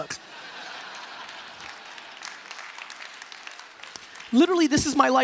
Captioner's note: applause; laughing